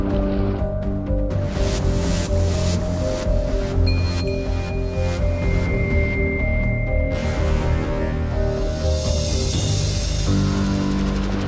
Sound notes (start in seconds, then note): 3.8 stars gleaming